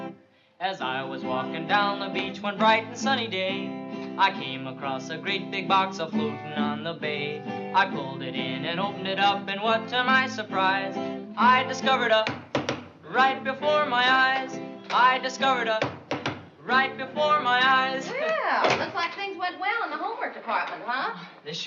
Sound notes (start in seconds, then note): 0.1 singing; 12.2 tap-tap-tap; 15.7 tap-tap-tap